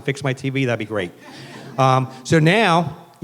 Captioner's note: laughing